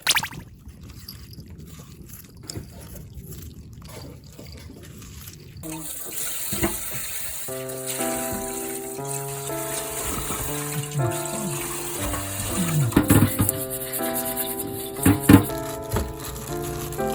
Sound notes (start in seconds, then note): none